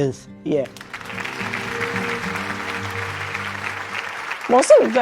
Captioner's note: applause